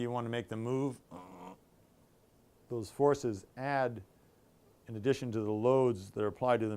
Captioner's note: grunts